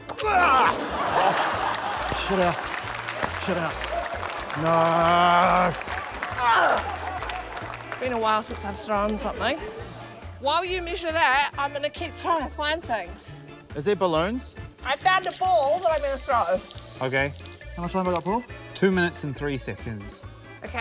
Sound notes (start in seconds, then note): 0.2 laughter; 4.5 applause; 4.6 grunts